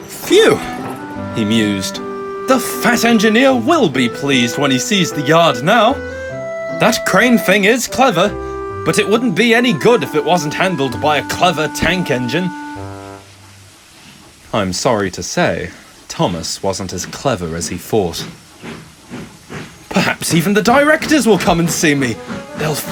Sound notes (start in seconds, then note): none